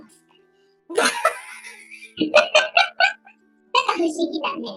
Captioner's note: laughs